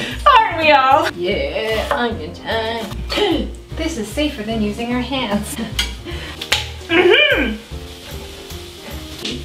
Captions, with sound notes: - Aren't we all? Yeah, onion time. This is safer than using your hands. (laughs) Mmhmm!